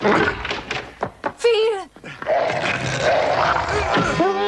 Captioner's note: clicks; roaring; groans